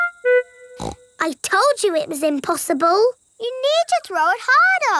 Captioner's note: snorts